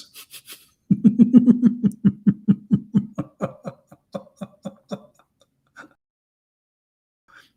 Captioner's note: Ketawa